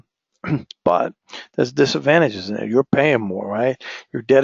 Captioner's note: cough